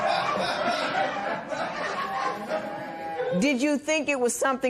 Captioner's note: laughter